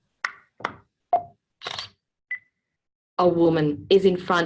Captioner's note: OrCam heard clicking and camera shutter sound